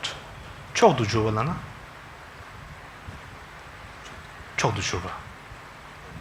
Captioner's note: speaks in foreign language